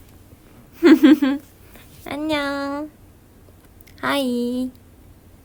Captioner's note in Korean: 웃음